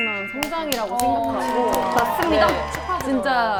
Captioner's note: clap clap clap